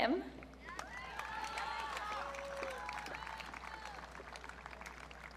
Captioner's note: audience cheering